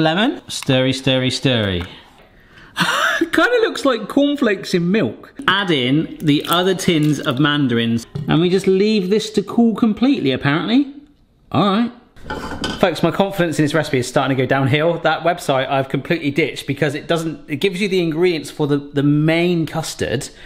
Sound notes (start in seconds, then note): 2.2 laughs